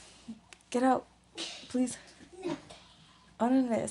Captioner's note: speaks in foreign language